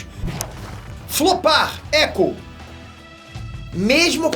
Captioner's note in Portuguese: echo